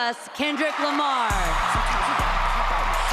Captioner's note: cheering, applause